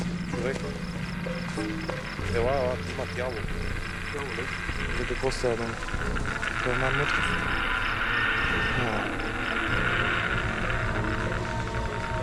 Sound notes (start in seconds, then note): 1.4 radiation meter crackling